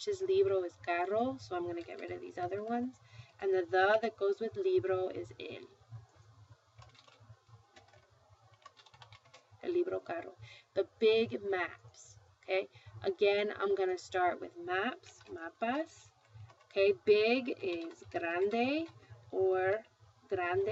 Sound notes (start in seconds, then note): 3.8 spanish; 8.7 speaking spanish; 15.1 spanish; 17.8 spanish